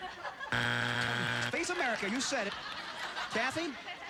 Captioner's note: buzzer